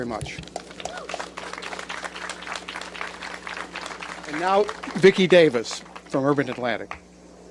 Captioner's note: applause